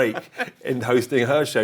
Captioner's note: laughs